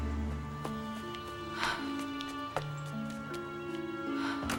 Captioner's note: heavy breathing